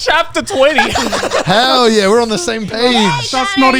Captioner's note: everyone laughing